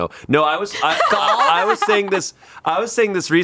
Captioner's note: laughs